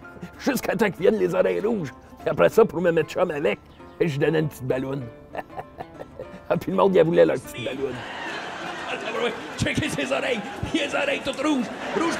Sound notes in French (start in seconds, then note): 7.8 rires